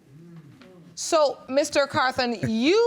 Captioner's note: laughs